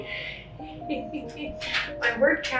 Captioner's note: laughs